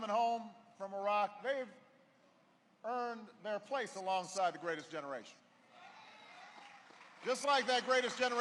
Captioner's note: applause